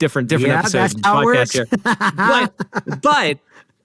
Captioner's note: laughs